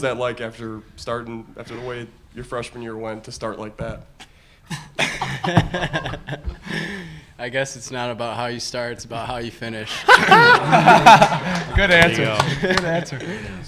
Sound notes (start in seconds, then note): 9.9 laughing